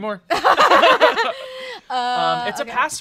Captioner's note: everyone laughs